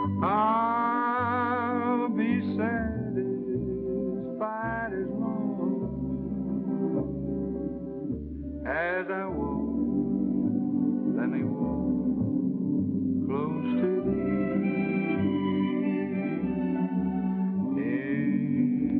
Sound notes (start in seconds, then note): none